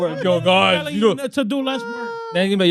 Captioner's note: speaking In Foreign Language